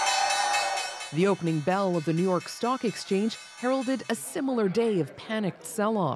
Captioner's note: bell ringing